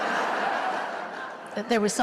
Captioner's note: laughter